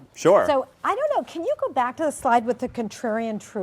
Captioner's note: voiceover